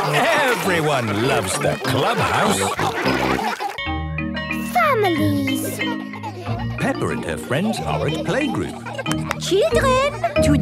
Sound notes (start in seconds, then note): 3.0 all laughing; 3.7 school bell ringing; 9.1 clapping